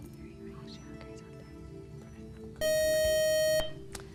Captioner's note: beeping